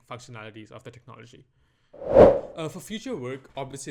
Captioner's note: transition whoosh